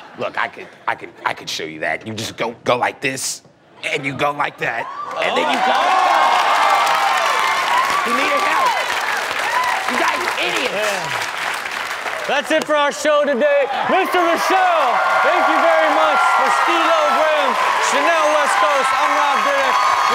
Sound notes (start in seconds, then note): 6.8 applause